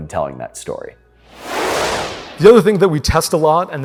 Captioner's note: whooshing